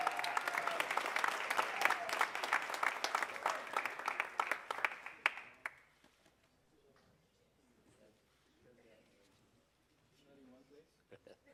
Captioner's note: cheers and applause